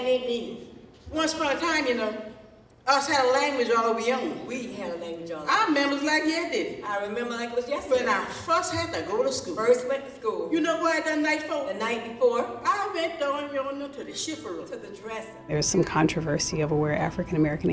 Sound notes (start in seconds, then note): 2.0 in Gullah; 7.2 in Gullah; 9.9 in Gullah; 12.4 in Gullah; 14.3 speaking foreign language